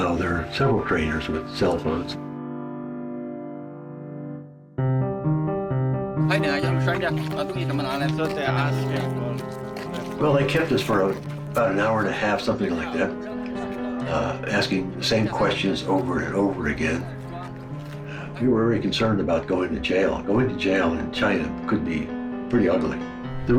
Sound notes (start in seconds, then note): 5.0 intense piano music; 7.1 speaking foreign language